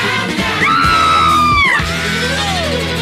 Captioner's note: Sweet Polly Purebred Screams